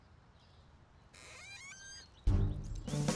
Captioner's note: gate creaks